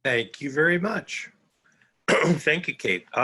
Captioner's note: clearing throat